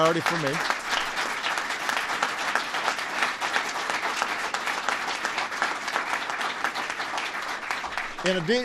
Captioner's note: applause